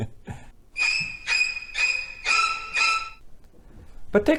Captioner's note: screeching sounds